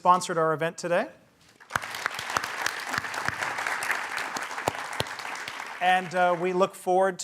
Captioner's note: applause